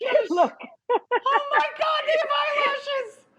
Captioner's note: giggles